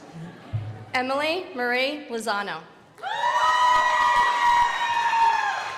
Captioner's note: crowd applauding